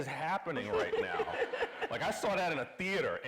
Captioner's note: everybody laughing